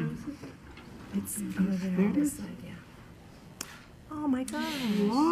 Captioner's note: woman's Voice; appreciative murmuring